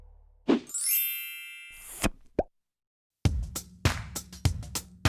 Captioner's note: chimes ringing; upbeat music